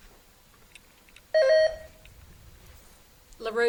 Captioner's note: buzzer beeps